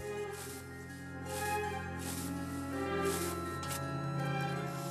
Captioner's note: mowing grass